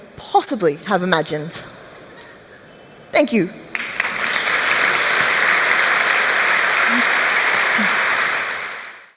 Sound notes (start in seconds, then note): 3.7 applause